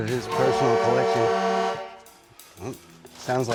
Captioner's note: loud horn honking